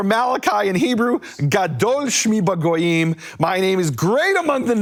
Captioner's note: speaking in foreign language